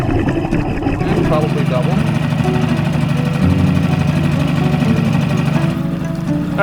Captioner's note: boat whirring